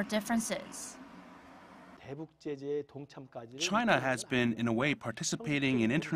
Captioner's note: Korean